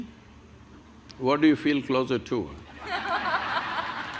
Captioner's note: laughter